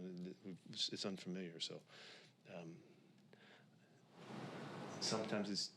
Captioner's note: takes a breath